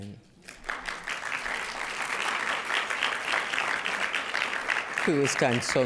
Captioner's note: applause